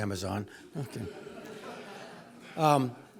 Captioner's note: laugh